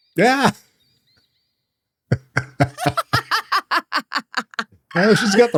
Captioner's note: laughs